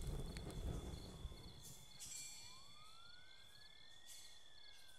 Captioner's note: siren blares